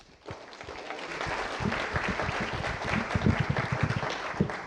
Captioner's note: applause